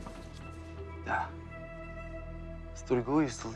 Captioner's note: eerie music; ship creaking; Teplov speaking in foreign language